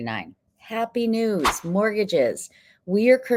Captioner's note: text whooshing